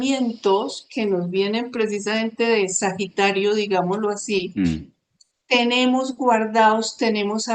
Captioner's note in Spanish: carraspeo